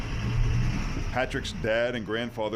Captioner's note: engine running